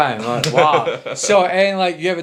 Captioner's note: laughing